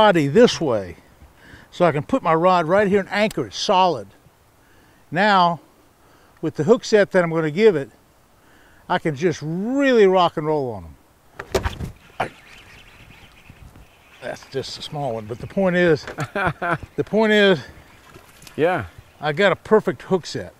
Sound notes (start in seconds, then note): 11.4 rod whipping; 13.8 reel cranking; 18.1 chuckling